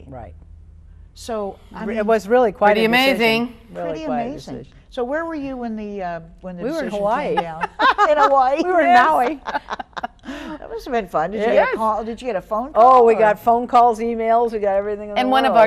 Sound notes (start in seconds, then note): 9.8 laughing